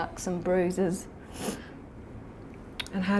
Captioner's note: sniffs